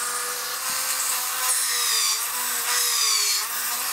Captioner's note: sluggish drilling